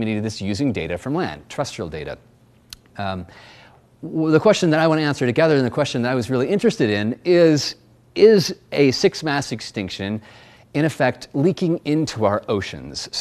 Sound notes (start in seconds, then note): none